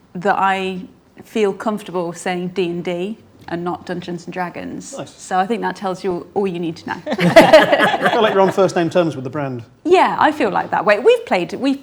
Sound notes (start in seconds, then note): 6.8 group laughs